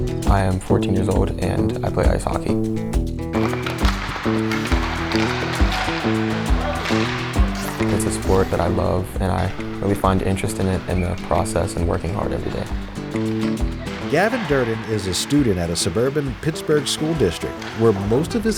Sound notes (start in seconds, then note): 0.0 upbeat music; 3.4 sticks clattering